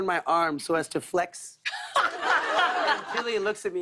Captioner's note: laughter